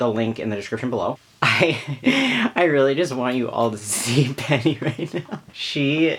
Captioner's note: laughs